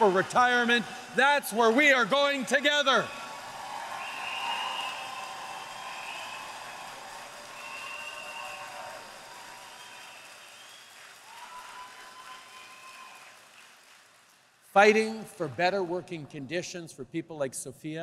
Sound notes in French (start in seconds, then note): 3.9 Acclamations et applaudissements